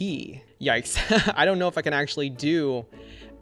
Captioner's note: laughs